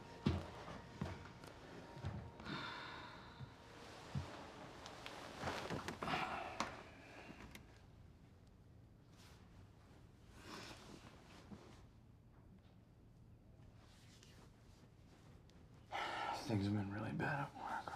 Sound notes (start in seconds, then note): 2.4 sighs